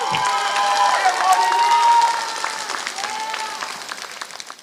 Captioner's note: applause